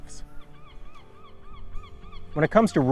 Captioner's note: gulls cawing